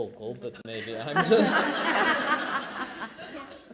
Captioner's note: laughter